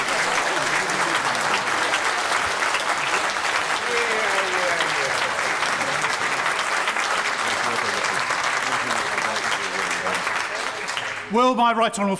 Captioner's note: applause